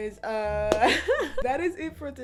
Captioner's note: laughter